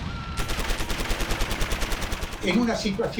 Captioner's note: gunshots, explosions